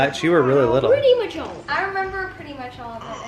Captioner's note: mumbles